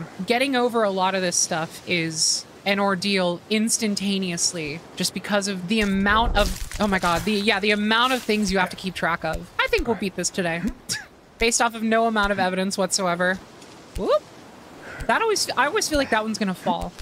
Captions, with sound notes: Getting over a lot of this stuff is an ordeal instantaneously, just because of the amount of- Oh, my God, yeah, the amount of things you have to keep track of. I think we'll beat this today. [Laugh] Based off of no amount of evidence whatsoever. Whoop! That always- I always feel like that one's going to fall.